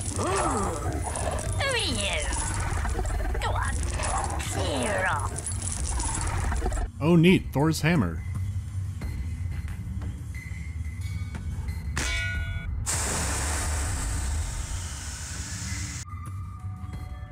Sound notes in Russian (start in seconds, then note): 11.9 бонк; 12.8 пар вырывается со свистом